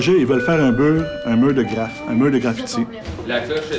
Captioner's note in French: sonnerie de fin de cour